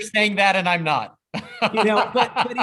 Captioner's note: laughs